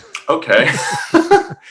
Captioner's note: laughs